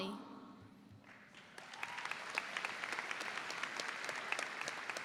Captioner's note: audience applauds